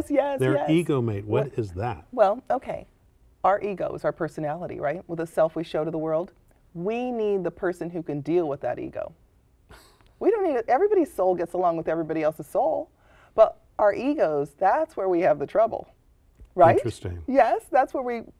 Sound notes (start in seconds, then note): 9.7 chuckle